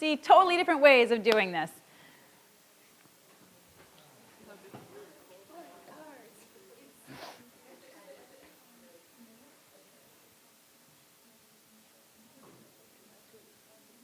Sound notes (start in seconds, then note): 3.3 audience chattering softly